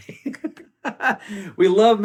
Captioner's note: laughs